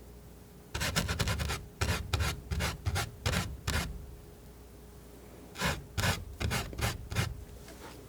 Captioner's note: scratching